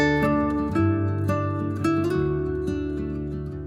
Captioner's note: excited